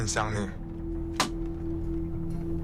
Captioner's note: arrows strike